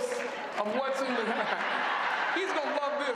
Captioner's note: applause